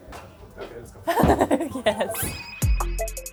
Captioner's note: laughs; chill music